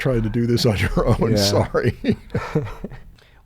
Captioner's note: chuckling